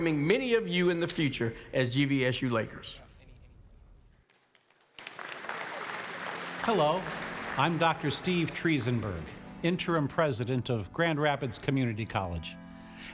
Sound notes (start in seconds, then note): 4.2 applause